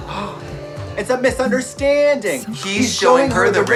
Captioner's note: gasps